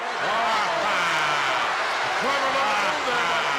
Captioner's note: commentators exclaim